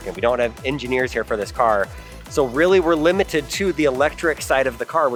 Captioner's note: none